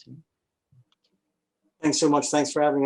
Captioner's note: clicking